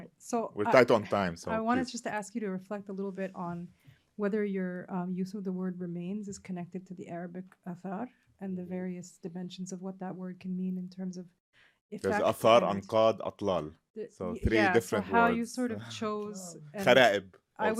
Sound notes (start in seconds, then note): 13.3 non-english